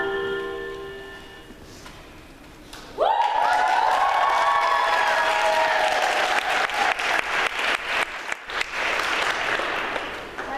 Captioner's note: applause